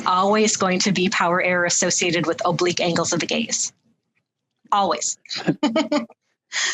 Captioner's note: laughs